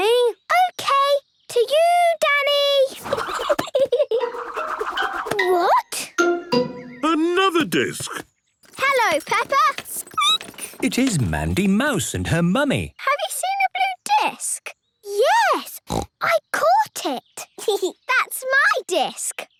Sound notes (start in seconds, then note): 3.0 giggling; 8.6 squeaking; 15.8 snorting; 17.3 giggling